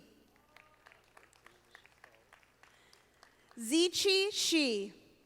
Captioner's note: audience applauding